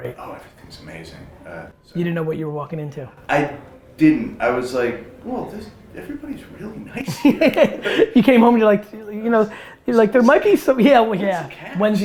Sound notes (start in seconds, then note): 8.2 laughs